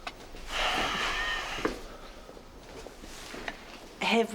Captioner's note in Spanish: David suspira